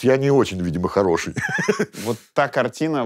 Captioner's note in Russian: смеется